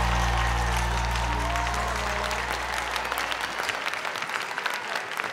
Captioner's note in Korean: 열광